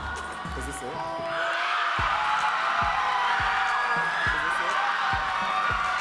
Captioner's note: audience cheering and clapping